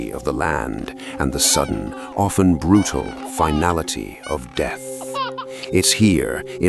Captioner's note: baby laughing